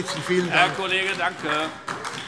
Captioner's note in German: Heiterkeit und Beifall AfD